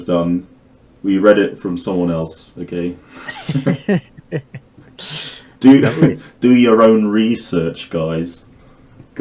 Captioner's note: chuckles